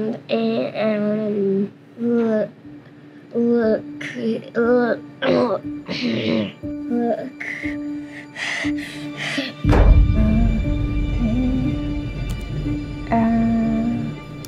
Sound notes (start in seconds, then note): 7.4 breathing hard; 9.6 boom